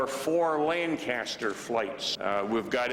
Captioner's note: voiceover